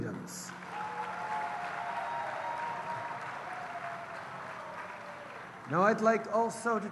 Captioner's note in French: Acclamations et applaudissements